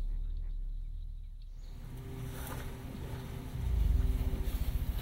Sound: rustling grass

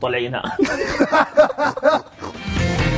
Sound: laughs

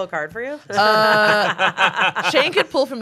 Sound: everyone laughs

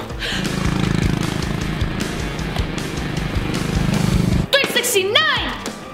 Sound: motorcycle engine revving

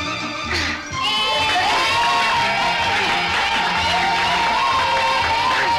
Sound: children shouting playfully

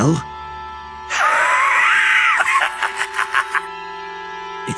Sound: laugh

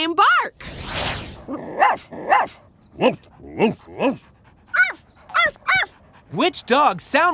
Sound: barking

